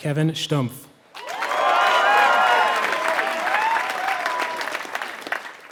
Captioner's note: applause